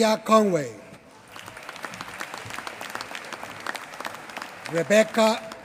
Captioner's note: applause